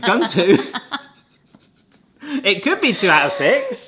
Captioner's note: both laughing